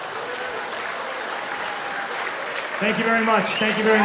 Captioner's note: cheering and applause